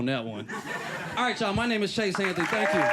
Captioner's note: cheering